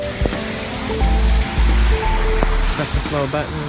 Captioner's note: cars driving